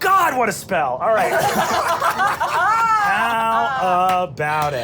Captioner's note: laughing